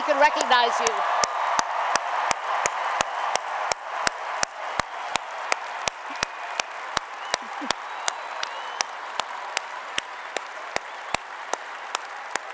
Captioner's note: applause and Cheering